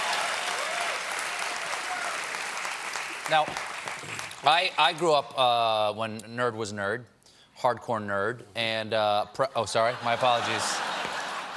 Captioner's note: cheers and applause